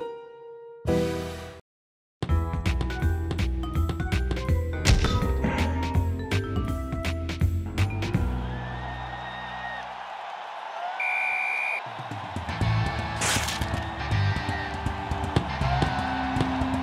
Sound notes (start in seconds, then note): 7.9 cheering; 10.9 whistle; 12.8 cheering continues